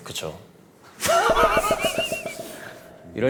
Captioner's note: heh